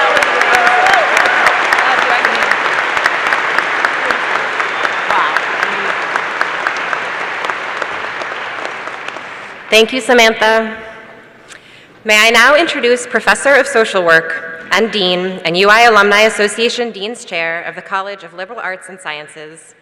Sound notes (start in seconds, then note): 3.6 applause